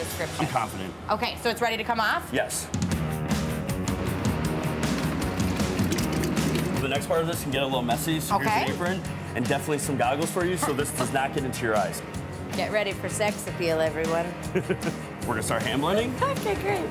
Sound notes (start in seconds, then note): 3.4 upbeat music; 10.4 chuckles; 14.5 laughs